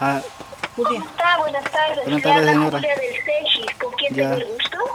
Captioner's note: voice on the phone